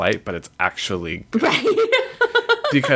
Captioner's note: laughs